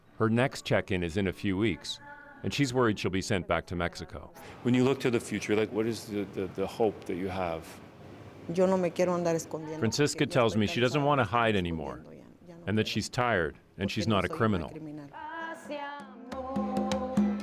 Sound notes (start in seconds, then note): 10.7 speaking spanish